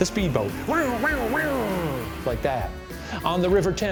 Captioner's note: vocalizing speedboat motor